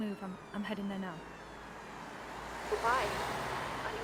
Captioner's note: sirens continue whining